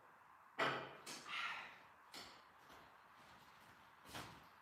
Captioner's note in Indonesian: menghela napas